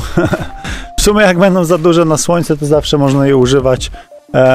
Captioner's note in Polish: heheszki